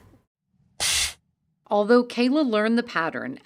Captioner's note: air hisses